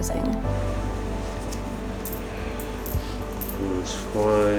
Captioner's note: change clinking